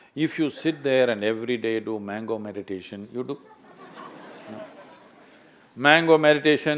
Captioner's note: laughter